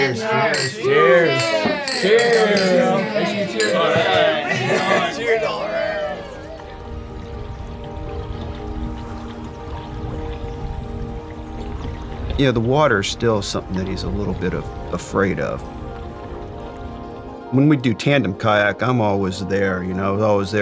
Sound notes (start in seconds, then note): 3.2 everyone chattering and laughing; 6.0 gentle music; 8.4 water burbling